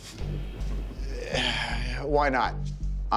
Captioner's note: laughs; sighs